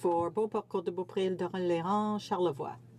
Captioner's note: speaking French